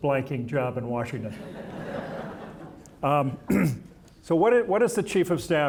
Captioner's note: audience laughing